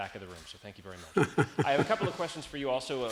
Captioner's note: laughs